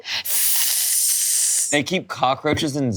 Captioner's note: hisses